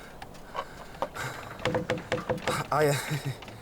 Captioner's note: loud creaking